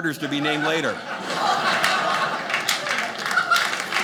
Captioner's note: audience laughing; audience clapping